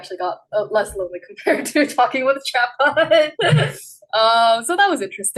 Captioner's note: laughs